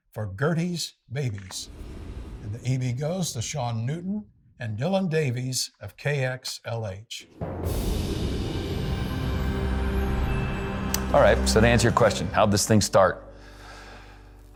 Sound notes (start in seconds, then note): 7.4 soft music; 7.4 wind whooshing